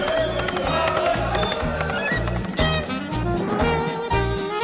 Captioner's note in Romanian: Aplauze